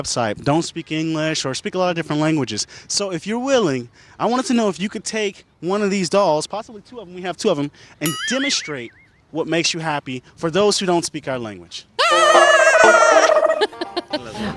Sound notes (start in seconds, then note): 12.0 screaming; 12.0 laughs